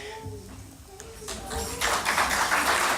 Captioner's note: applause